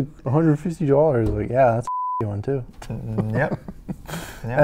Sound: beep

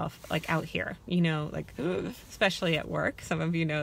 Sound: gasps

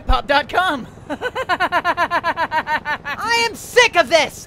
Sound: rolls on the floor, laughing

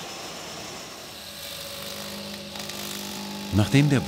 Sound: milling noise

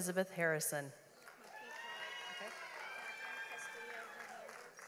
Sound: audience applauds

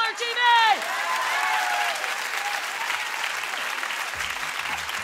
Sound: audience applauding

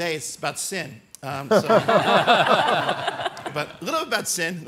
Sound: all laugh

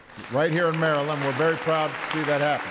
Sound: applause

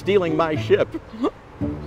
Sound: laughing

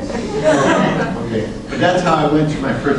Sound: class laughs

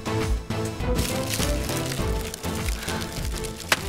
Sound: fire burning

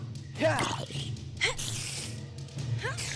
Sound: spider hiss

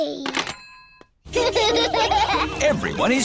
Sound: children laughing

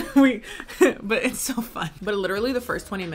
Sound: laughs

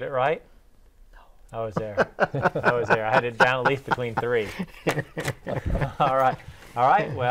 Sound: laughing

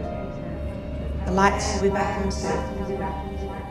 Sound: echoing

